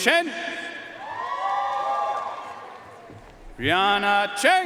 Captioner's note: audience cheering and applauding